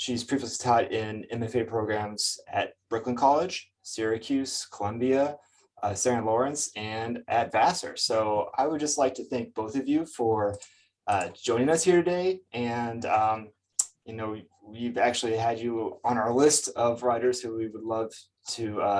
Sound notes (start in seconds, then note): none